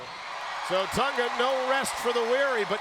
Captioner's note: crowd cheering